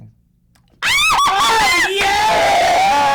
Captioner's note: screaming